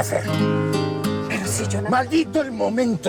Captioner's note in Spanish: Quejidos